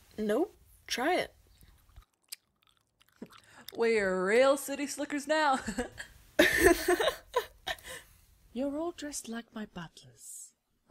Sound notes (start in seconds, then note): 1.5 chewing; 6.4 Ara laughs; 6.4 giggles